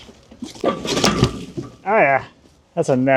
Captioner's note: metal clanking